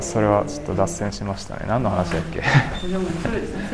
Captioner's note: laughs